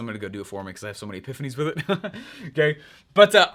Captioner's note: laughs